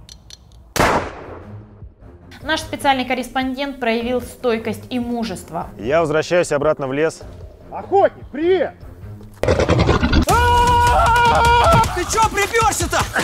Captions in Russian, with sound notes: Наш специальный корреспондент проявил стойкость и мужество Я возвращаюсь обратно в лес Охотник, привет! *рык* А-а-а-а-а! Ты чё приперся?